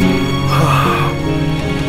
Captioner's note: Sighs